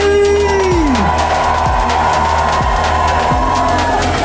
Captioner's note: crowd screams